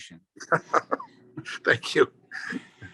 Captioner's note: laughs